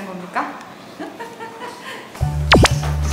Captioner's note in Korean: 실성한 웃음